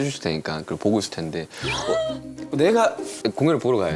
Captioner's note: gasp